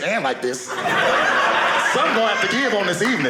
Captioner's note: audience laughing